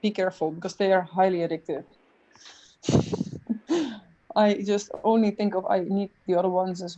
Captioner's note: chuckles